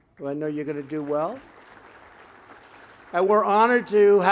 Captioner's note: applause